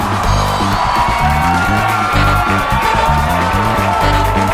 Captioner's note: all cheering